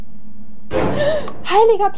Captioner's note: shocking noise